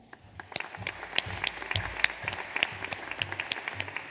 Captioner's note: audience applauds